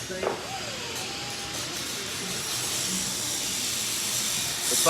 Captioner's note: machine whirring